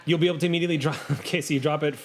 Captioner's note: laughs